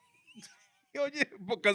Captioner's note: laughing